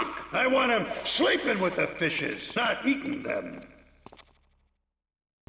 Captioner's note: none